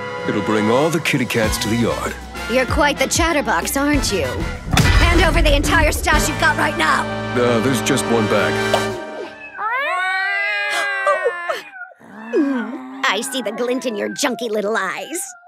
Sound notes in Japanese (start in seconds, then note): 9.3 猫の鳴き声